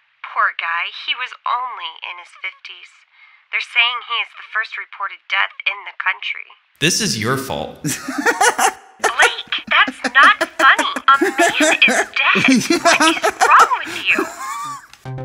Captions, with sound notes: Poor guy, he was only in his 50's. They're saying he is the first reported death in the country. This is your fault. (Laughs) Blake, that's not funny.